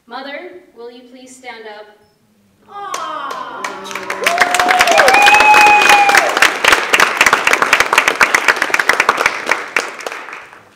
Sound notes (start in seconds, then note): 2.8 clapping and cheering